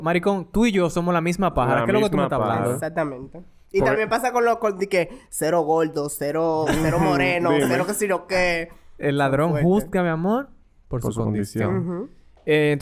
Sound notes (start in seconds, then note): 6.6 laughs